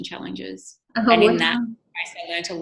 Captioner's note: microphone cutting out